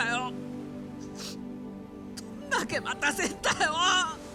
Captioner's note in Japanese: 鼻息